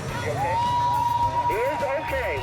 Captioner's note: spectators cheering